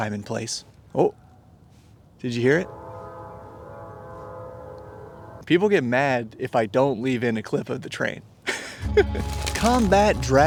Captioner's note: train horn